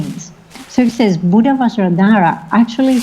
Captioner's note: foreign language